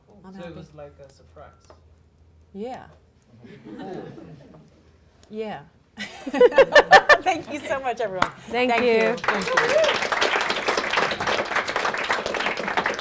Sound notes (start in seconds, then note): 6.0 laughing; 8.6 audience applauding